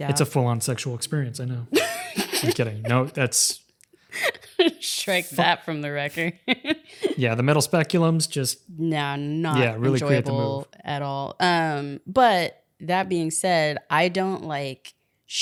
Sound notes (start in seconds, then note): 1.8 laughing